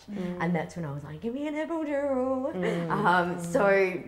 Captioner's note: chuckles